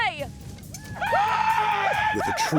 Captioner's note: war cry